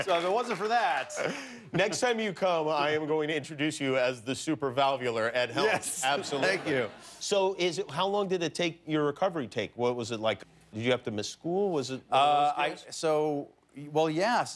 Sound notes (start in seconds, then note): 5.6 laughter